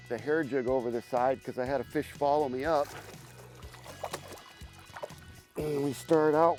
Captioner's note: fish thrashing